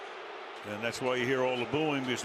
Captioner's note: crowd booing